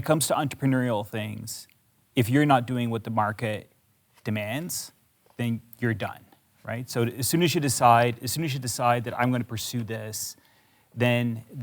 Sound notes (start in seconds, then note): none